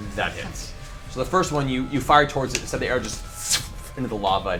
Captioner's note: puff; whoosh